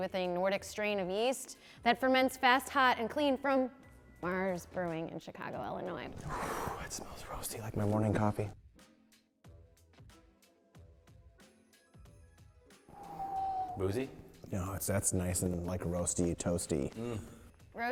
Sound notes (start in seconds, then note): 12.9 exhaling